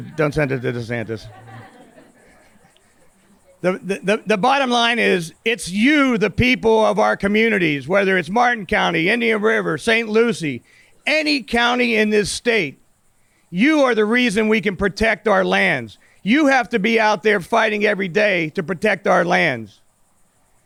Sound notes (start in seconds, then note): 0.0 audience laughs